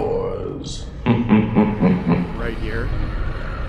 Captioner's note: ghost laughs